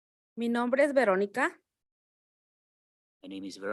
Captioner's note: speaking in Spanish